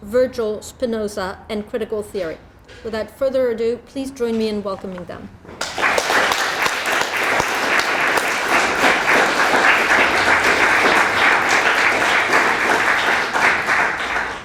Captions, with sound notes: Virgil, Spinoza and critical theory. Without further ado, please join me in welcoming them. (audience applauds)